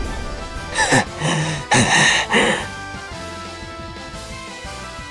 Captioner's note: panting